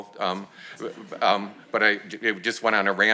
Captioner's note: audience laughs